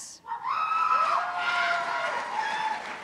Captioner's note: cheers and applause